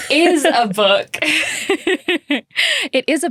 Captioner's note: laughing